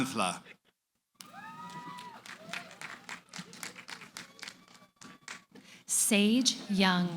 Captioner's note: cheering